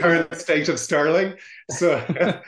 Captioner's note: laughs